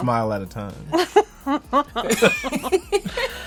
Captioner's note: laughs